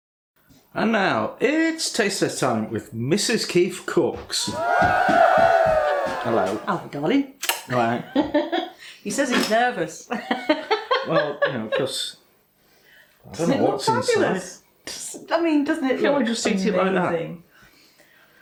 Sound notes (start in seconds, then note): 4.4 cheering; 10.4 laffin